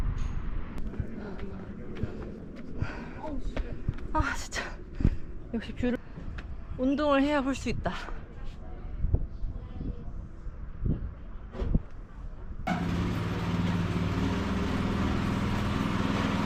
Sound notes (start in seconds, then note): 1.9 getting more out of breath